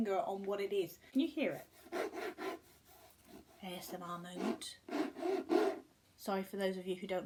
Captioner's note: scratches book annoyingly